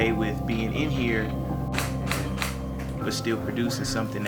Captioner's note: camera click